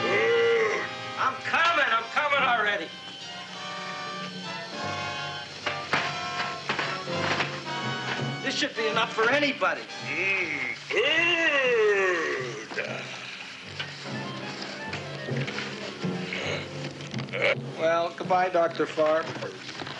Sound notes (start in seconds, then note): 5.6 wooden clattering; 16.2 Audrey Junior grunting